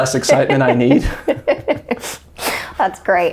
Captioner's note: laughing in unison